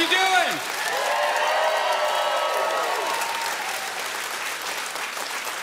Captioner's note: audience cheering loudly